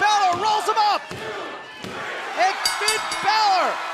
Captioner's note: bell ringing